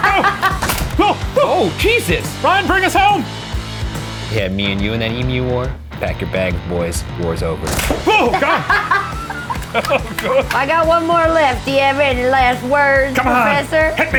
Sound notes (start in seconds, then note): 0.0 laughs; 8.0 laugh; 8.1 gasps